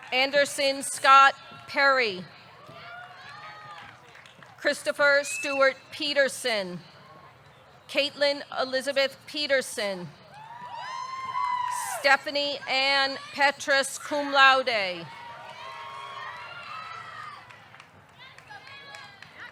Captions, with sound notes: Anderson Scott Perry. (audience cheering) (audience clapping) Christopher Stuart Petersen. Katelyn Elizabeth Peterson. (audience cheering) Stephanie Anne Petras, cum laude. (audience cheering)